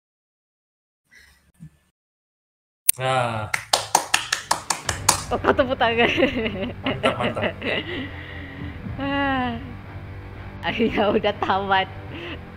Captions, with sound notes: (clapping) why you clapping nice nice it's finally ending